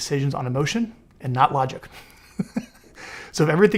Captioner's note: laughs